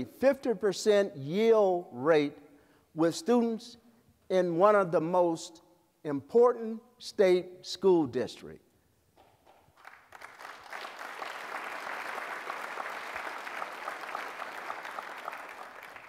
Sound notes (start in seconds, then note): 9.4 applause